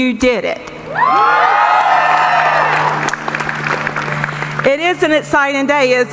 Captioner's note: cheering; audience applauding